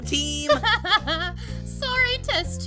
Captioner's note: clover laughs